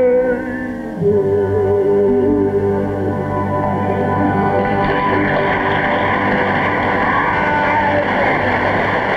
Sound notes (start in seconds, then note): 4.2 audience applause